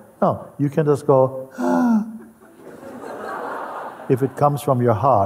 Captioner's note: Lachen